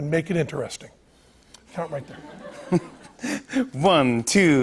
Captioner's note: laughter